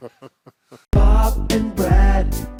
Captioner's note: chuckling